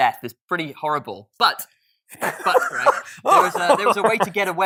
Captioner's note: laughing